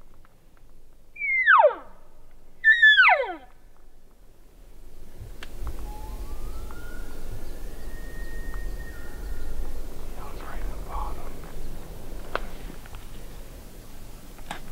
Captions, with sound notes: (Caller cow calling) (Elk bugling) That was right in the bottom.